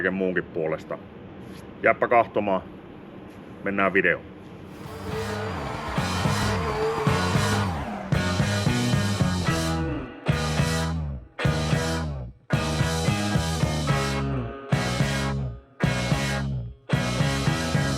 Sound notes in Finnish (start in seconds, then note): 6.9 Aplodeja